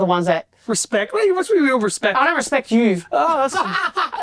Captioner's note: laughs